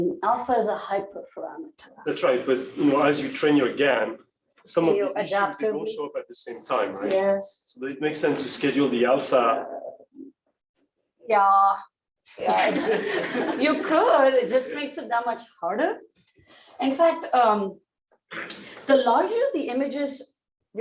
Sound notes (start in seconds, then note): 12.4 laughter